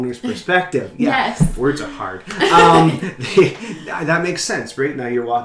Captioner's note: laughs